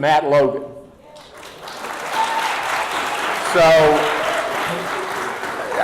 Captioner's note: audience applauding